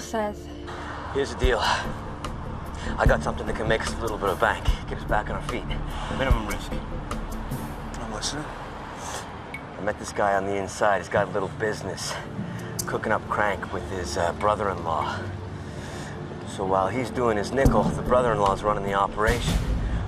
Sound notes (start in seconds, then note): 8.4 sniffling